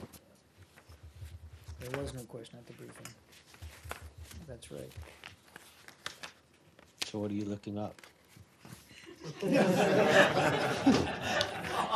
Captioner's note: laughter